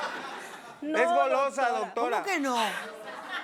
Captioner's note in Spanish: Risas del público